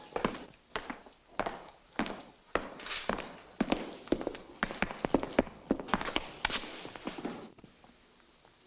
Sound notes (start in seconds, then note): 0.0 footsteps echoing